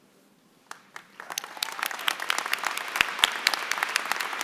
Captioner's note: applause